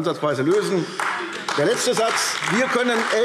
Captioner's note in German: Beifall AfD